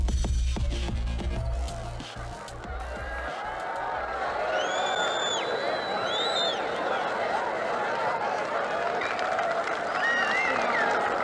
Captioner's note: roaring crowd fades in from seemingly nowhere